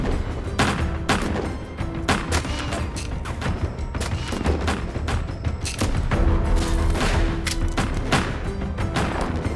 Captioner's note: gunfire